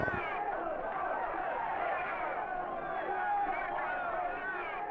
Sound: crowd yelling

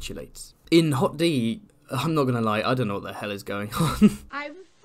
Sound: laughs

